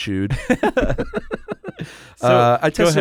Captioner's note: both laughing